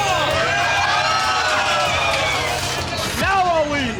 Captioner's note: cheering